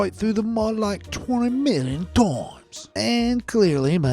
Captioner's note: in a British cockney accent